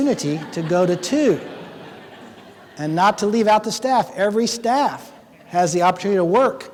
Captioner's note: laughing